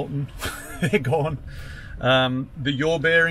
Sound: laughs

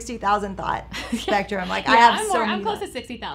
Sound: laughing

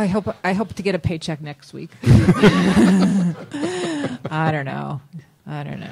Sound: laughter

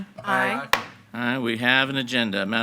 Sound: gavel bangs

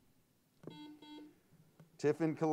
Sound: buzzer sounds

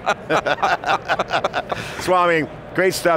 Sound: laughing

